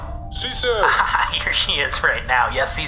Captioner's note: quietly; yelling